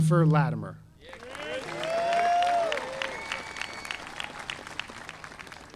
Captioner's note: audience applauding